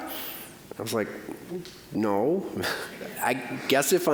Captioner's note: audience chuckling